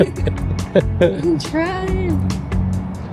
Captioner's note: laughing